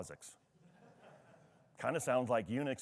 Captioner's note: attendee laughs